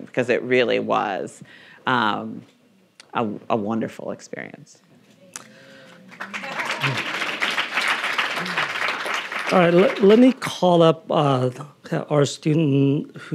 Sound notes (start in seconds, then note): 5.8 audience applauding